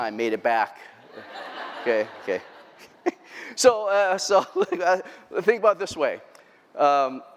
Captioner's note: laughter